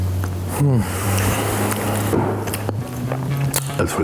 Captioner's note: sighing